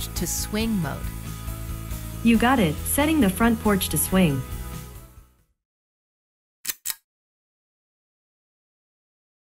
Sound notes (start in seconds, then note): 6.6 click